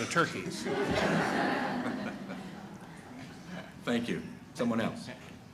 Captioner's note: laughter